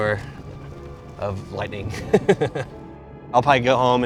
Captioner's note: laughs